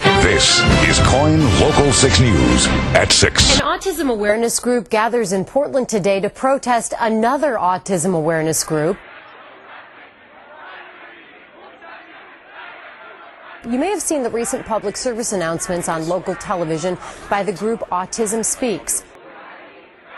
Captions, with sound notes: (Dramatic Music) This is KOIN local six news... At six. An Autism awareness group gathers in Portland today... [Crowd noises]...to protest another Autism awareness group. You may have seen the recent Public Service Announcement... ...on local television, by the group Autism Speaks.